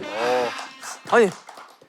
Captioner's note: applause